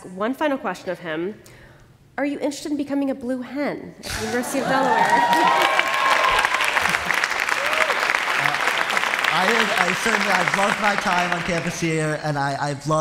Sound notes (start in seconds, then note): 4.8 applause; 6.8 laughter; 9.3 laughter